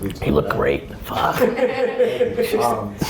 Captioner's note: laughing